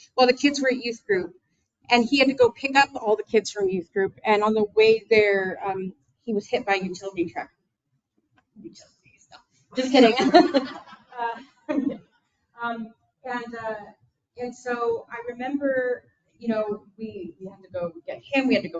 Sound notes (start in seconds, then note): 9.8 people laughing